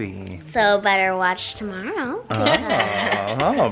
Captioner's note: chuckles